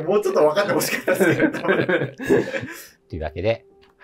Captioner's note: laughing